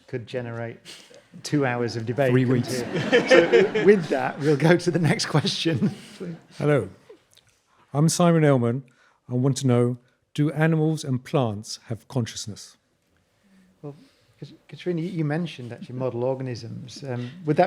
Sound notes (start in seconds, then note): 3.5 audience laughing